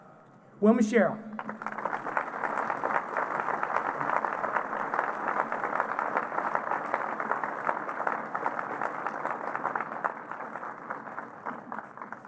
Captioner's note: applause